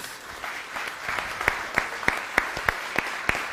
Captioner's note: applause